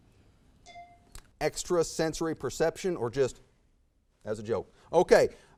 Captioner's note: bell dings